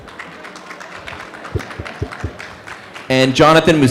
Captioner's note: applause